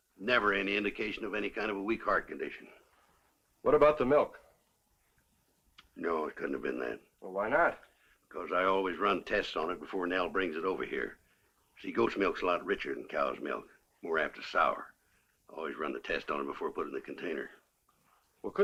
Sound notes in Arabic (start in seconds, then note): none